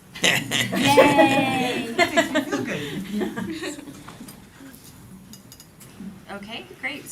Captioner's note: laughter